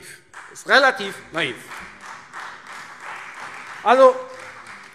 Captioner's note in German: Beifall Freie Demokraten und vereinzelt CDU